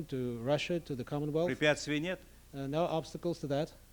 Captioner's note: non-english speech